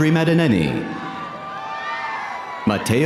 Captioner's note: audience cheering